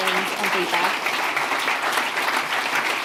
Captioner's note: applause